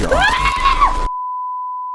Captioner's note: screaming